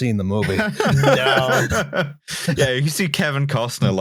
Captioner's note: laughter